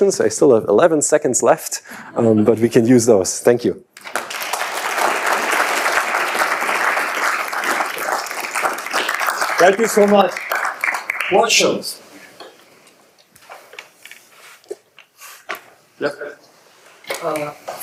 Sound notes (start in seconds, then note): 3.9 audience clapping